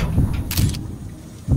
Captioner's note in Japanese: 効果音 ドックン・ドックン・ドックン・ドックン・ドックン・ドックン・ドックン・ドックン・ドックン・ドックン・ドックン・ドックン・ドックン; シャッター音; 効果音 ドックン・ドックン・ドックン・ドックン・ドックン・ドックン・ドックン・ドックン・ドックン・ドックン・ドックン・ドックン・ドックン